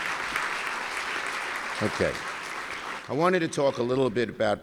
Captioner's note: applause